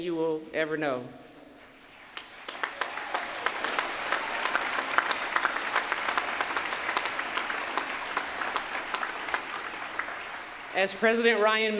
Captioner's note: applause